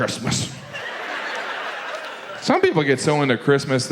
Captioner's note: audience laughs